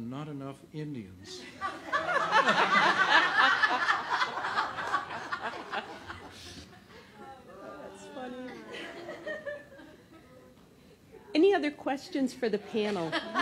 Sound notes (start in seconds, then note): 3.6 laughter